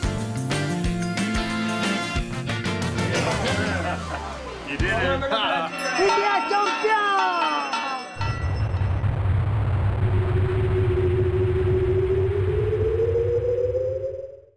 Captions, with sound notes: (LAUGHTER) India champion! Captions created by Ai-Media ai-media.tv